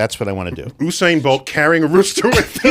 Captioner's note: laughs